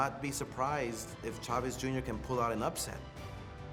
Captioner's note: Chavez Jr. speaking Spanish